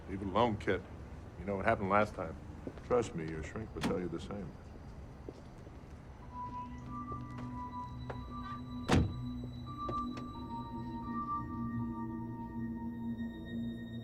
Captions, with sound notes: - Leave it alone, Kit. You know what happened last time. Trust me, your shrink will tell you the same. (suspenseful music) (car door thuds) (suspenseful music)